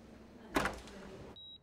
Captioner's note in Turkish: Kapı açılır